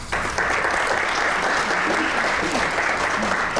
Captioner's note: crowd clapping